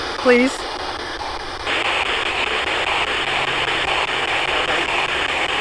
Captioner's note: electronic static hissing